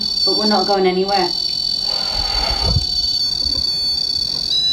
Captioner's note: REM pod beeping